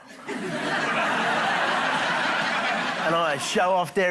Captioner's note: laughter